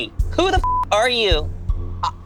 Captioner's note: beep